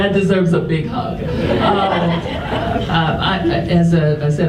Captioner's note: audience chuckles